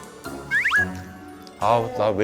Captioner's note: fwip